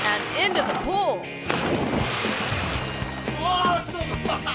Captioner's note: water splashes; laughs